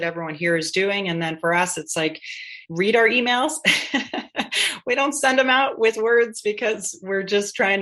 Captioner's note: laughter